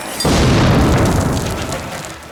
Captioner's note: grenade explodes